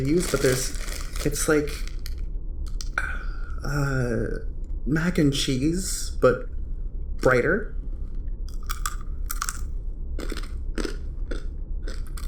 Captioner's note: Cronch